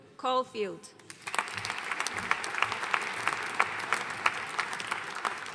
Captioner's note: audience applauding